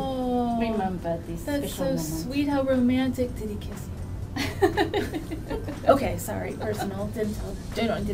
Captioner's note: laughs